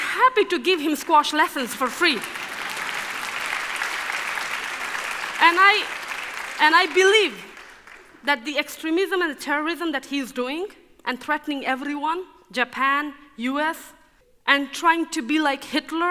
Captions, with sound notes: I'm happy to give him squash lessons for free. (applause) And I believe that the extremism and the terrorism that he is doing and threatening everyone, Japan, US, and trying to be like Hitler